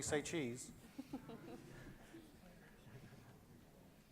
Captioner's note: loud laughter